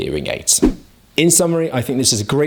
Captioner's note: air whooshes